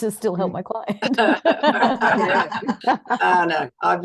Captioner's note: all are laughing